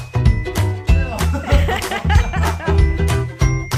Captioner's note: they both laugh